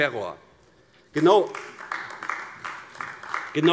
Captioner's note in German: Beifall AfD